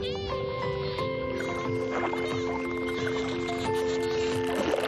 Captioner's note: whistling and clicking